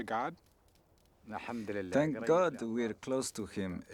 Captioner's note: speaking in local language